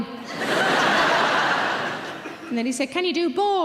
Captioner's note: audience laughing